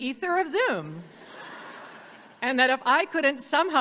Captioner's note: audience laughing